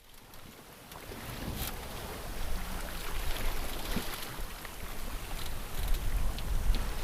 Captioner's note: sound of water rushing past a sailboat